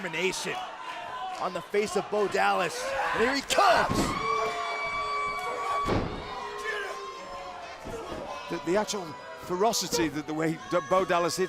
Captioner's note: crowd chatter